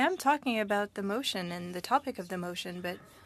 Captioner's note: speaking French